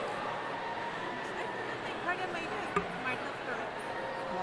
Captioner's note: crowd chattering